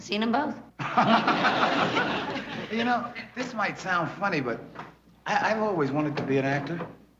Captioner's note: laughs